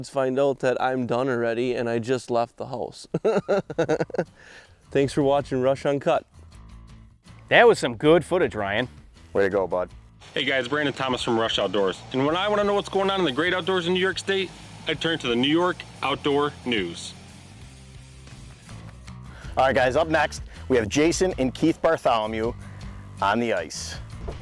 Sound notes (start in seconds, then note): 3.1 laughs